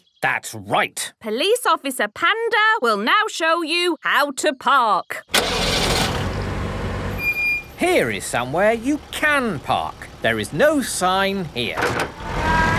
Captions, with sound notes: - That's right! - Police Officer Panda will now show you how to park. (car engine starting) - (breaks squeaking) - Here is somewhere you can park. There is no sign here.